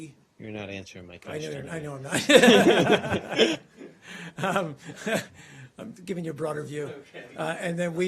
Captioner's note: laughter